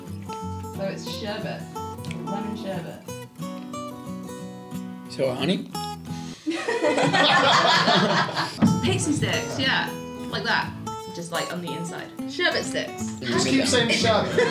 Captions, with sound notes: - So, it's sherbet. - Lemon sherbet. So... honey? *Laughing* Pixy Stix, yeah! Like that. Just like, on the inside. Sherbet sticks. - Just keep saying sherbet.